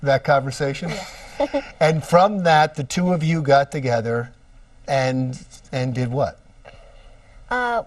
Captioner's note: laughs